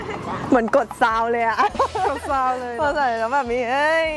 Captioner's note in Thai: เสียงหัวเราะ